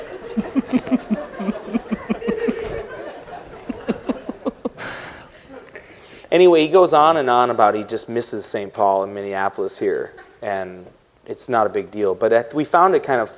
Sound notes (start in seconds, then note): 0.0 laughter